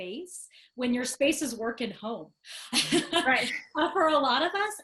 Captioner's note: chuckling